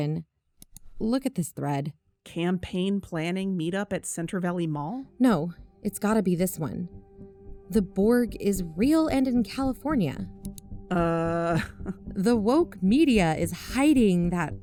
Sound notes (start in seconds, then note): 0.6 click; 10.4 click